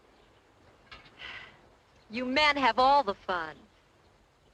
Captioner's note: sighs